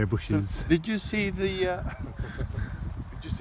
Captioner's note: chuckles